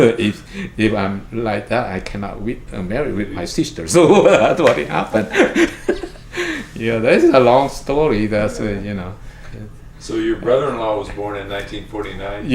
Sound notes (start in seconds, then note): 3.9 laughs